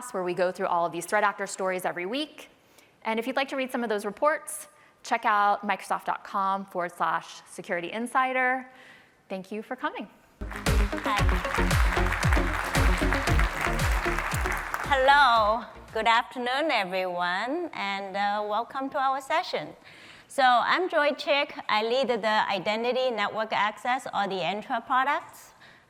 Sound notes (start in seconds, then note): 10.4 applause